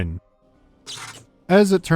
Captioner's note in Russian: электрический треск